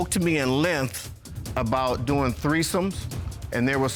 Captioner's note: none